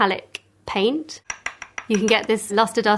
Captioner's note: tapping